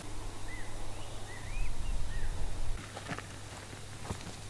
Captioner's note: birds chirp